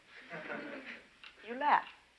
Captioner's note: students laughing